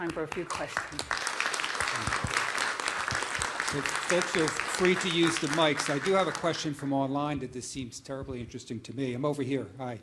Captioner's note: applause